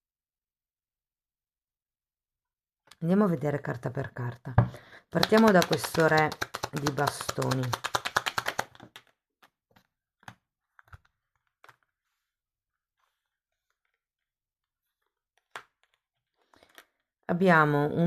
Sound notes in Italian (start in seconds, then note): 7.9 Applauso